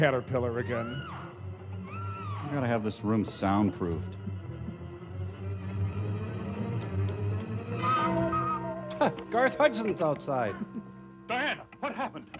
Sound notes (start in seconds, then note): 0.8 humming to score; 8.0 sobbing